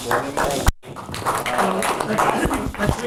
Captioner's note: audience applauding